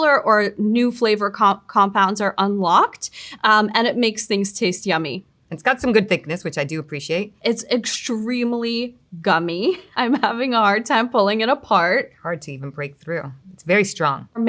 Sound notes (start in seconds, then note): none